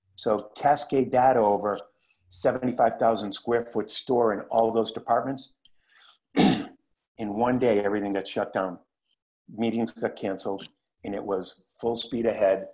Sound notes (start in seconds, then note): 6.3 cough